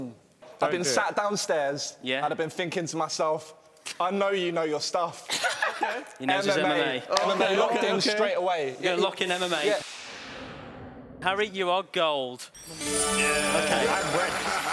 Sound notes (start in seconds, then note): 9.2 whooshing; 13.0 cheering